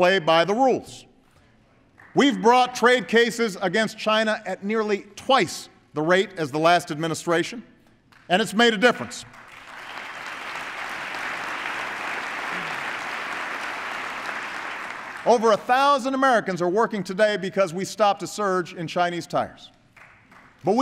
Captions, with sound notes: play by the rules. We’ve brought trade cases against China at nearly twice the rate as the last administration –- and it’s made a difference. (Applause.) Over a thousand Americans are working today because we stopped a surge in Chinese tires. But